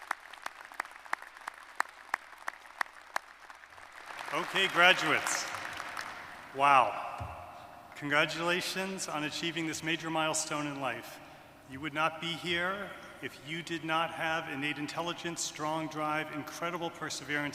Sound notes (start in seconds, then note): 4.5 applause